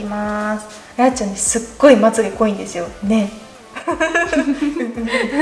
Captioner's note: laughs